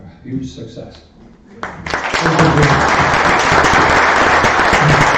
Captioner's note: applause